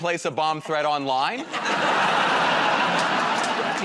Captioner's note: laughter